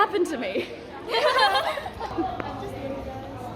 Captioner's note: laughter